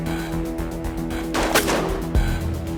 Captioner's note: gunshot